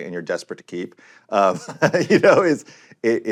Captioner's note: laughs